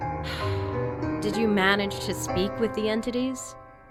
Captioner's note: sigh